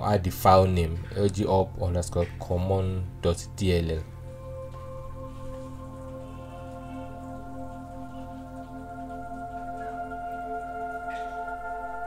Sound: alarm

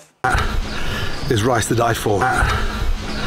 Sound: breathing heavily

